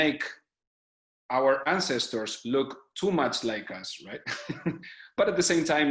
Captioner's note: laughs